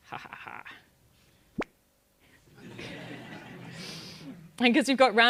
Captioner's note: laugh